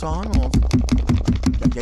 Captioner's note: cup clattering